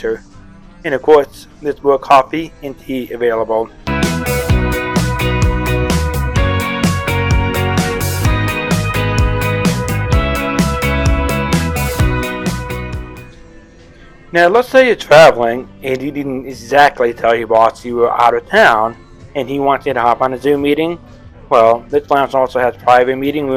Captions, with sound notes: And of course, there's more coffee and tea available. (Fun, Upbeat Music) (Voiceover) Now, let's say you're traveling, and you didn't exactly tell your boss you were out of town, and he wants you to hop on a Zoom meeting. Well, this lounge also has private meeting rooms